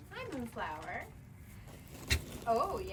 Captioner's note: turkey chuffs